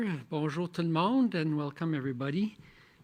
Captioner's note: speaking French